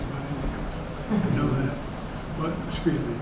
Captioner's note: laughter